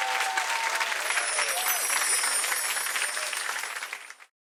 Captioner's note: bells chime